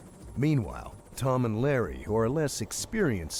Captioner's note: voiceover